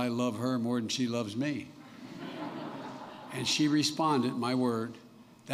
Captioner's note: laughter